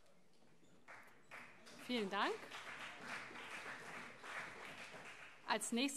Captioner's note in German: Beifall CDU